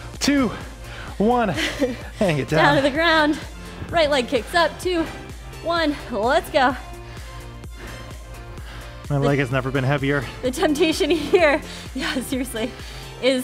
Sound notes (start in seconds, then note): 6.7 breaths heavily; 7.2 upbeat music